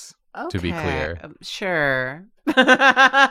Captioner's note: laughs